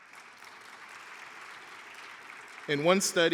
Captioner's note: audience cheering